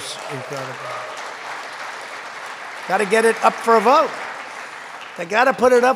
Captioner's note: applause